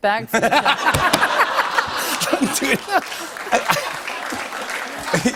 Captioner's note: laughter and applause